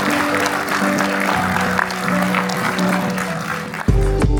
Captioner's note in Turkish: alkış